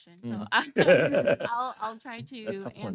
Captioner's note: laughing